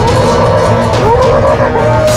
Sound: roar

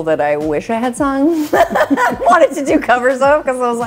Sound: laughing

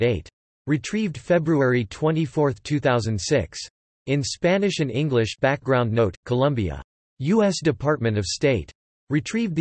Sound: in Spanish and English

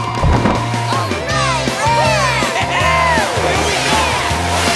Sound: cheering

